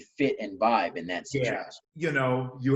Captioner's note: murmurs